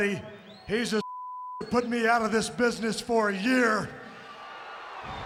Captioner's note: beep; audience booing